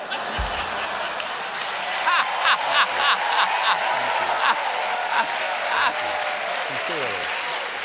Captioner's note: cheers and applause; laughter